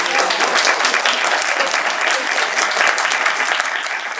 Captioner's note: audience cheering